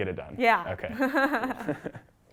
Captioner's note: laugh